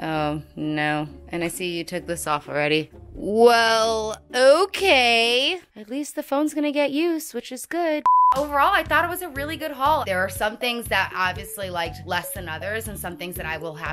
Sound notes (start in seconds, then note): 8.0 beep